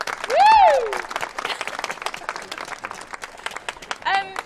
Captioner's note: applause